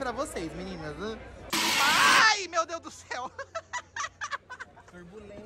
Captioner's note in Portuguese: grita